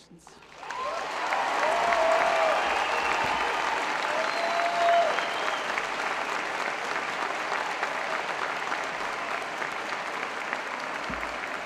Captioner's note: applause